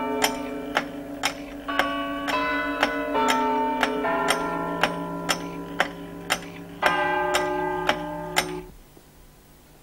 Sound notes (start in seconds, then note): 1.4 ticking and chiming; 7.0 chiming